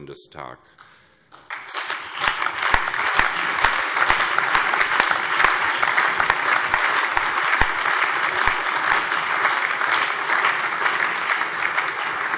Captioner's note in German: Allgemeiner Beifall